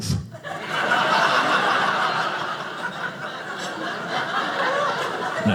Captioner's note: audience laughing